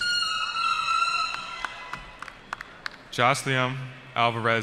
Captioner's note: cheering